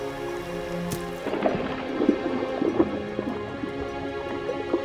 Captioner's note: gentle music; water sloshes